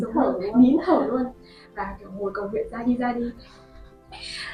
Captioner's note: laugh